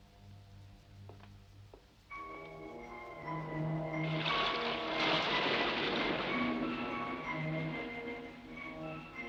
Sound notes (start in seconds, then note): 2.3 gentle upbeat music; 4.0 waves crashing